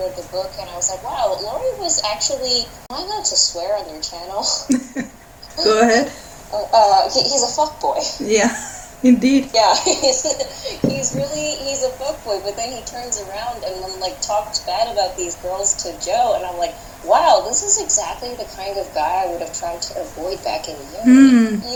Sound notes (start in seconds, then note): 4.4 laughter